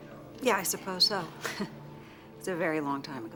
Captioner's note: chuckles